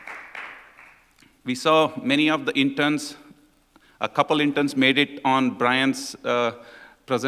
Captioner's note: applause